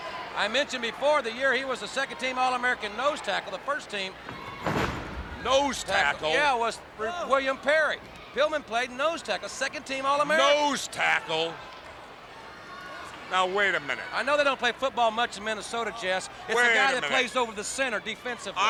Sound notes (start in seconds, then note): 4.2 body thudding